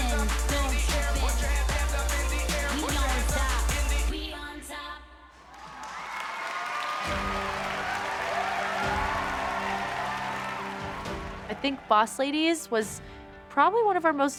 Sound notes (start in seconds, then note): 9.7 crowd cheering and applauding; 9.7 song ends